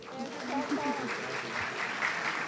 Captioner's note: audience applauding